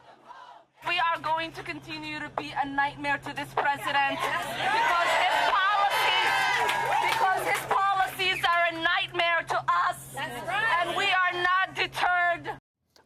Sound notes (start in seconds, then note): 4.3 cheers